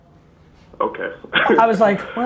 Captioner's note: laughs